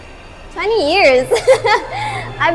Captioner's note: laughs